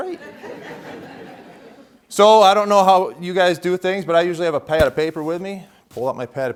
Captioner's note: laughter